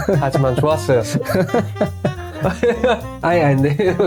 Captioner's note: laughter